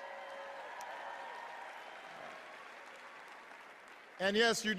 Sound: cheers

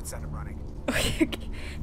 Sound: laughs

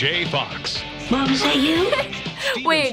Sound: giggles

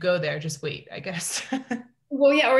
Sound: laughs

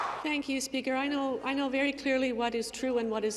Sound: some Applause

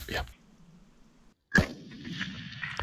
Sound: gunshot

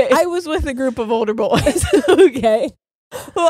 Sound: both laughing

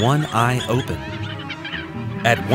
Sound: honking

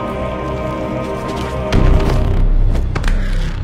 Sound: thuds to floor

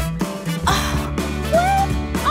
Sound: groaning

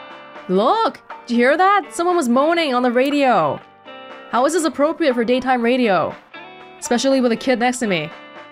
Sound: none

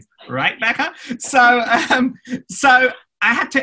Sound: laughs

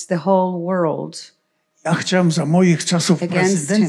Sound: foreign language

